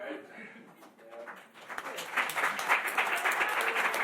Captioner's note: applause